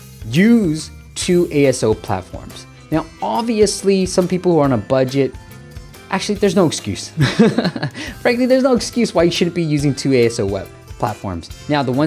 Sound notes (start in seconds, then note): 7.2 laughs